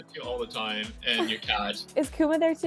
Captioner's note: chuckles